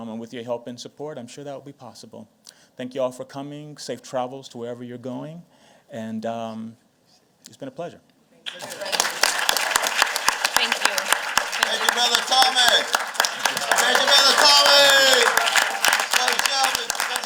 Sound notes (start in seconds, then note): 8.5 applause; 14.9 applause